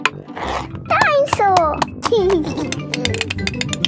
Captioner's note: giggling